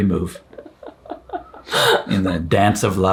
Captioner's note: chuckles